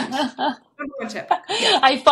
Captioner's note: laughing